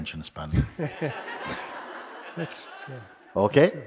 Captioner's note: laughter